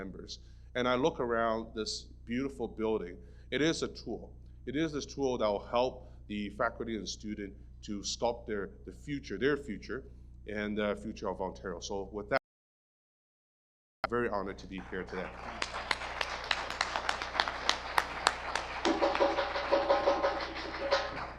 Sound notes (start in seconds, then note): 14.5 audience applause; 18.9 drumming begins